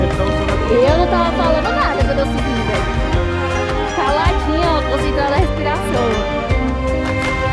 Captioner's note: they talking in portuguese